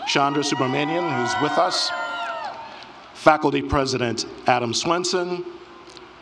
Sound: applause

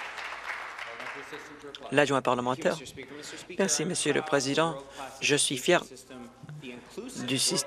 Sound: some Applause

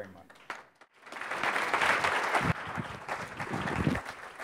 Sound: applause

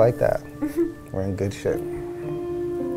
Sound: laughs

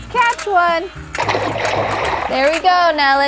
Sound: water splashes

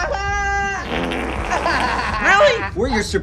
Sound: cackles; farts

